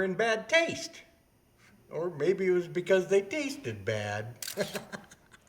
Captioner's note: laughs